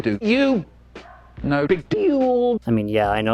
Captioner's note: dog barks in background